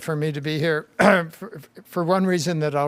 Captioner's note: clears throat